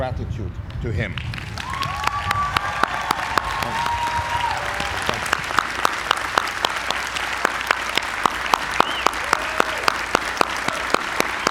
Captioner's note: applause